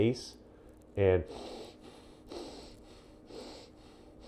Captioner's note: inhaling and exhaling